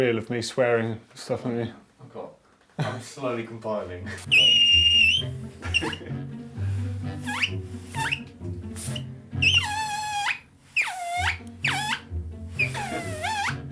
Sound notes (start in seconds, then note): 4.2 squeaking; 5.5 laughing; 7.3 squeaking